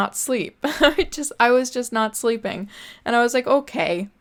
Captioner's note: giggles